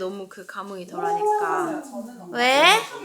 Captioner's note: cheers bursting right then hahaha